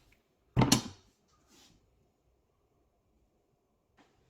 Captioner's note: knife clunks